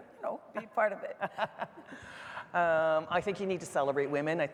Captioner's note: laughing